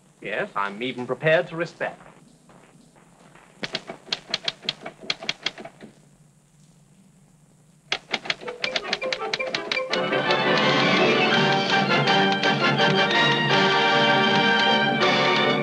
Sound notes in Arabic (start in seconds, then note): 3.6 نقر الآلة الكاتبة; 8.5 موسيقى أوركسترالية مبهجة